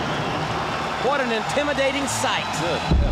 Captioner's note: crowd cheering